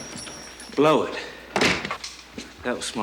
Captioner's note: door opens; door slams